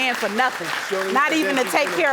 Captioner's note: audience applauding